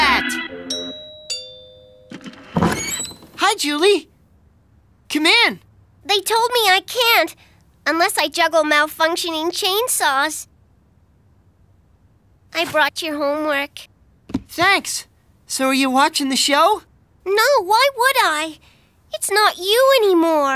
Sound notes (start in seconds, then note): 0.3 doorbell ringing